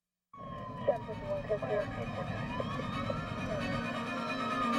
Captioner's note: sirens